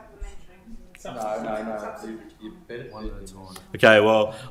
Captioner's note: speaks faintly